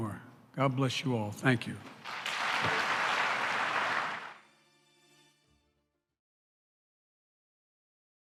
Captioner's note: applause